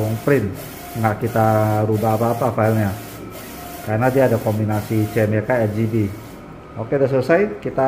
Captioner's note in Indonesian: suara mesin printer